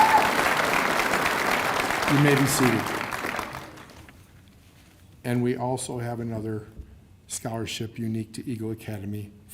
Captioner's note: cheers and applause